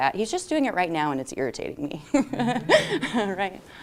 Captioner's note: laughter